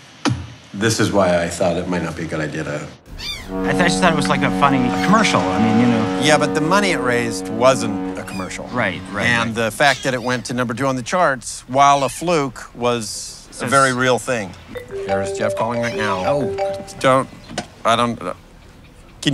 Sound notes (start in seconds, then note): 14.8 cell phone ringing